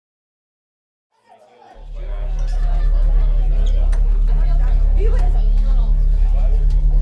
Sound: students chattering

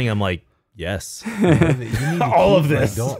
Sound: laughing

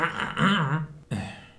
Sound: sighs

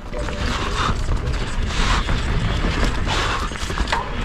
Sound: breathing heavily

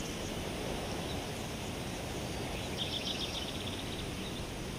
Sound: birds chirping

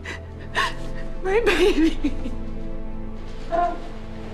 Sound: sobbing

